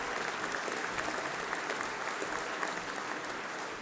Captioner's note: applause